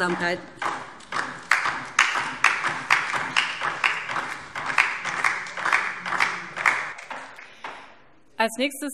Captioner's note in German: Beifall DIE LINKE